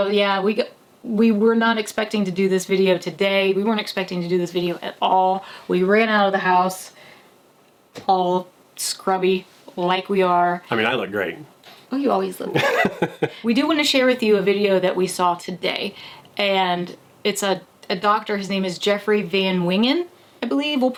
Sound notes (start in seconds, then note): 12.5 laughing